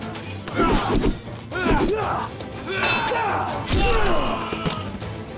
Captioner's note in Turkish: Dövüş sesleri